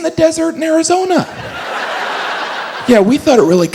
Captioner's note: audience laughs